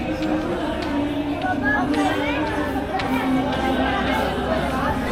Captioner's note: people chattering